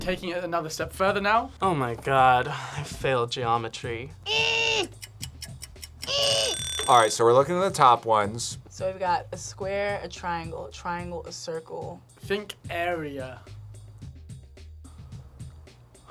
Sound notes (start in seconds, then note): 4.4 grunts; 4.8 clock ticks; 6.2 alarm blares